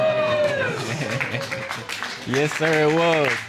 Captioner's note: scattered applause